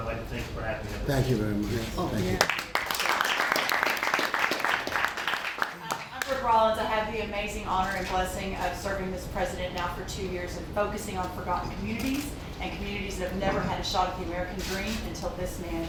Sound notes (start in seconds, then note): 2.3 applause